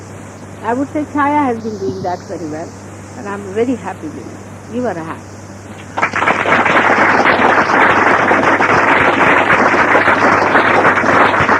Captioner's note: applause